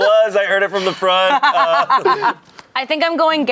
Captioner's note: laughs